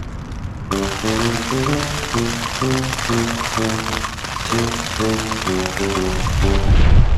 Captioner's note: rain on tent; gust of wind